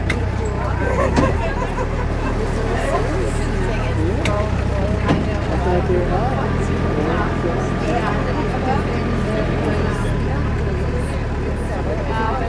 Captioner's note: passengers Speaking